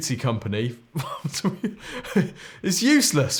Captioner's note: laughs